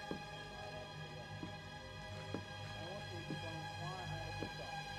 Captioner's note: footsteps tapping